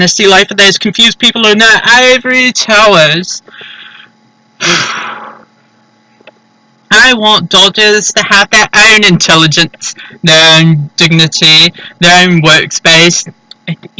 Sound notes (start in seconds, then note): 4.6 exhume-y exhale